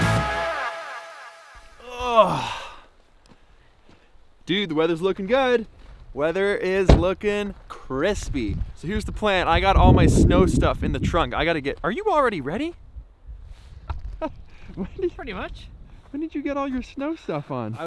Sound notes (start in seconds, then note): 1.8 groaning